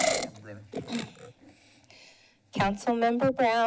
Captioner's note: breathes steadily